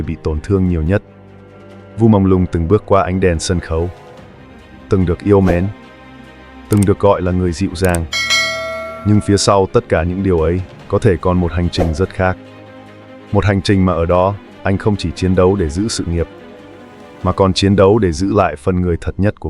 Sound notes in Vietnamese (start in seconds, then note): 8.0 chuông